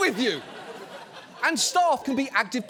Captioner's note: audience laughs